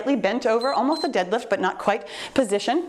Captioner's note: timer beeps